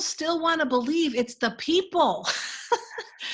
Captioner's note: laughing